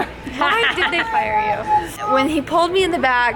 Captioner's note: laughs